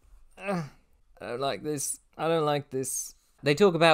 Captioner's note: strained